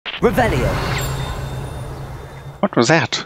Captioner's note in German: Ting Sound Of Field Note